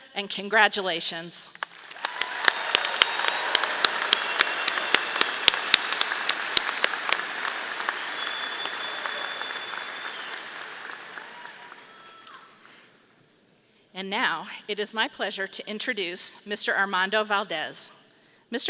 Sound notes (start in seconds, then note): 1.8 audience cheering; 2.4 audience applauding